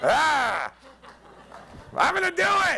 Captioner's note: yells